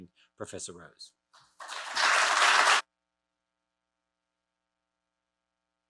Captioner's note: audience applauding